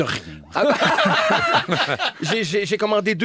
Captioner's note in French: rires